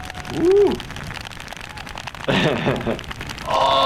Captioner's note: paint balls firing